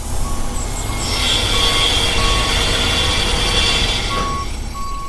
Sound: truck beeping; tools buzzing; jackhammer banging

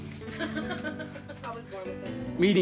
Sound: chuckling

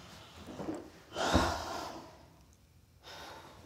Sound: mom sighs

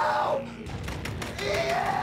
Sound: banging

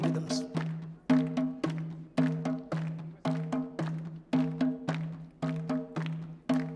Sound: upbeat drumming continues; audience clapping

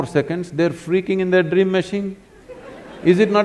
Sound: laughter

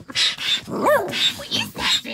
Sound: roar

